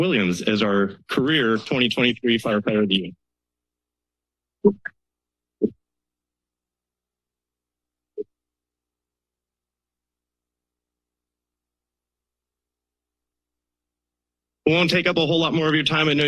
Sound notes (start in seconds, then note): 4.3 silence